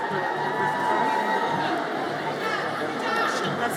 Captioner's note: audience cheers